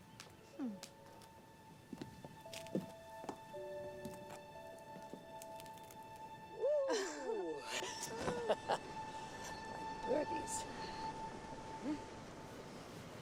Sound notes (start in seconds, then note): 6.6 Mrs. Bascom laughs; 6.7 Ruth chuckles